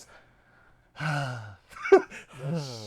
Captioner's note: laughing